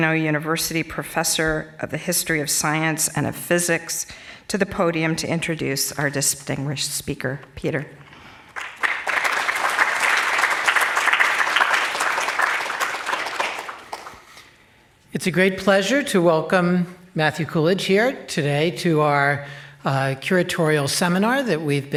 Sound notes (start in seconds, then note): 8.5 applause